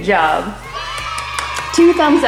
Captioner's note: cheering